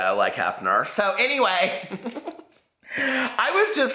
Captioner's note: laughs